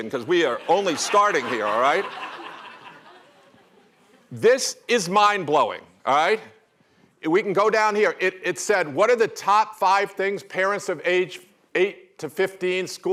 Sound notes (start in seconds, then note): 3.2 laughter